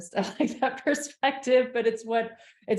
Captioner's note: laughs